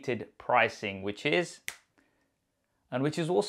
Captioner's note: fingers snapping